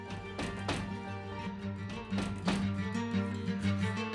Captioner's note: knock, knock, knock; suspenseful music